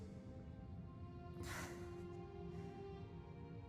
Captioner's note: sighs